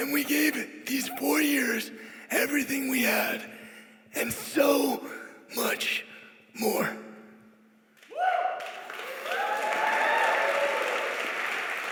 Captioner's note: cheers